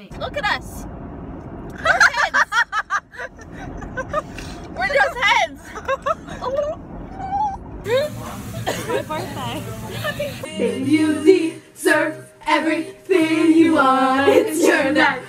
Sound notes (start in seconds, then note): 1.7 laughter; 5.9 gobble noises